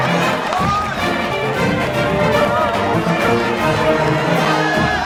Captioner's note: band playing; crowd applauding